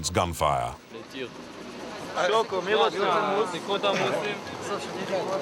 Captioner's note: French spoken audio